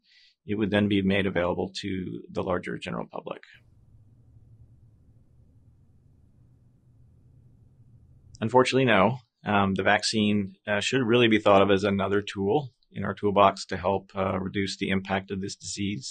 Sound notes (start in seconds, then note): 3.4 silence